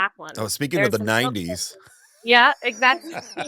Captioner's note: laughs